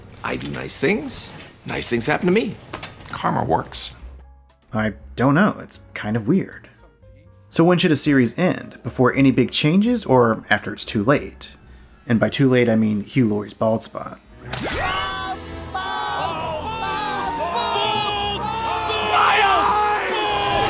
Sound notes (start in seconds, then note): 16.3 crowd